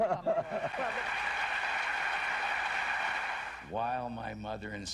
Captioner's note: audience applause